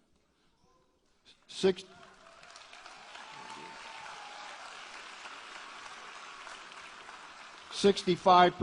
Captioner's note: applause